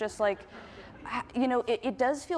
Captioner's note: audience laughs